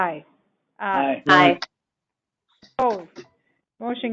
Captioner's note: chorus of aye's